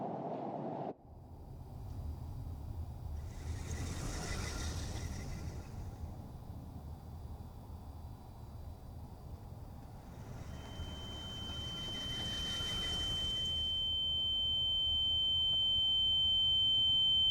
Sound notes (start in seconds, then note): 3.2 soft chittering; 11.0 high pitched tone